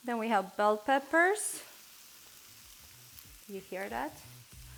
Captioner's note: sizzling